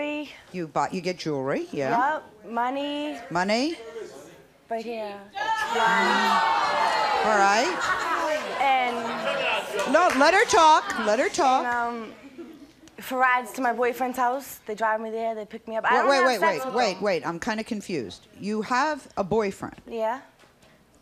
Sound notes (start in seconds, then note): 5.3 crowd shouting; 5.3 crowd jeering